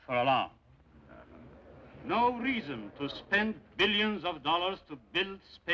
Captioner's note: delegates Murmuring